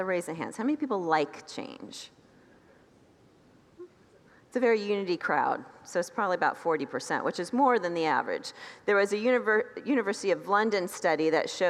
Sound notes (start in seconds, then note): 2.3 congregants titter